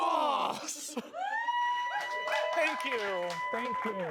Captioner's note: audience cheers